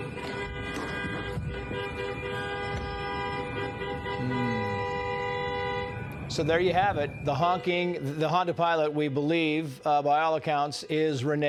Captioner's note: horns honking